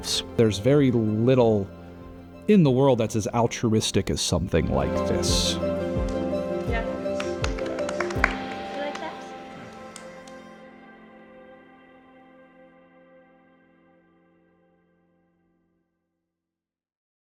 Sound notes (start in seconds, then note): 5.8 hands clapping